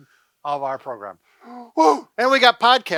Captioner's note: pants